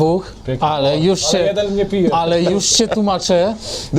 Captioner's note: haha